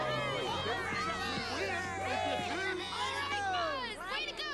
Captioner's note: all cheer